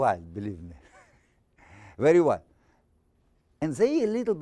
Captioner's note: laughing